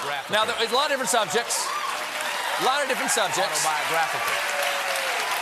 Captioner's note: cheers and applause